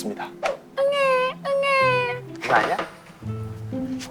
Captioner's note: crying